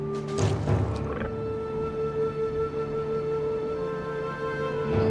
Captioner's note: raptor growls